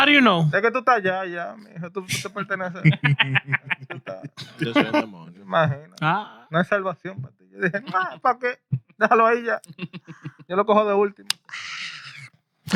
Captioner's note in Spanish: Hablando en idioma extranjero